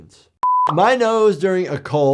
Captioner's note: screen beeps